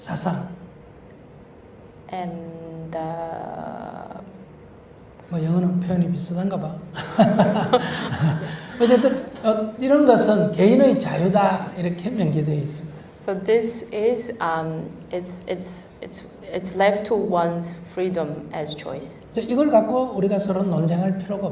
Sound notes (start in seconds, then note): 6.9 translator Laughter